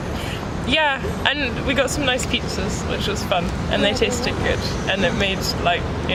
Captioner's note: overlapping, quietly